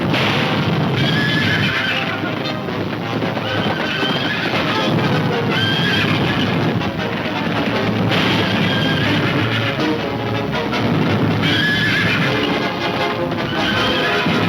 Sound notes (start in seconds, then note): 1.0 horses neighing; 7.0 gunfire pops; 10.1 horses neighing